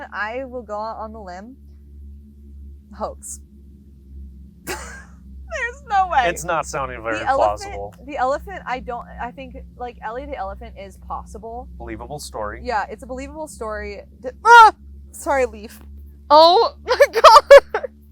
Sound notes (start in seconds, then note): 14.5 screams; 16.8 laughs